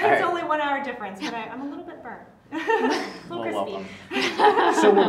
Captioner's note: laugh